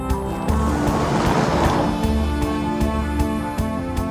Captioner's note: engine revving